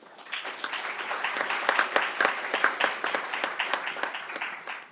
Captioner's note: crowd applauding